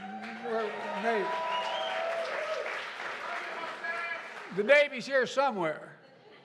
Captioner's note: applause